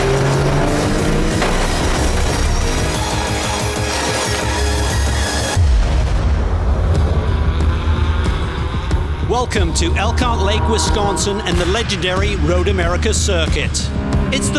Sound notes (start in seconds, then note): 0.1 dramatic upbeat music continues; 6.8 distant engines revving